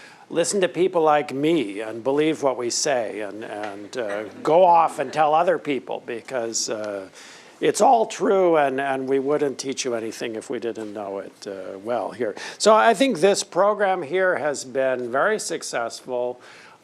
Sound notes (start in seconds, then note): 3.6 laughter